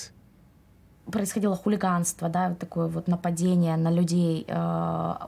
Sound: speaking in foreign language

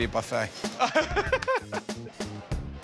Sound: laughs

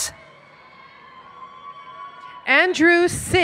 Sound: cheering

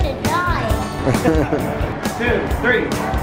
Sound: laughter

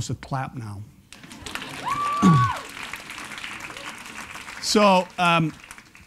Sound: applause

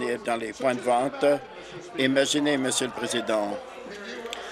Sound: chuckles

